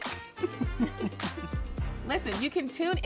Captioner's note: giggling